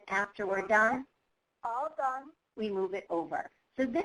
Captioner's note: voiceover